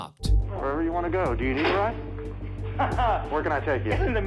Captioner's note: laughs